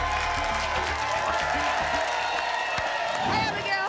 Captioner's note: applause and cheering cont